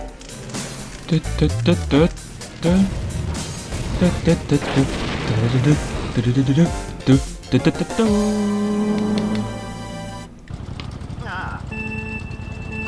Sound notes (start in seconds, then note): 0.8 humming along the song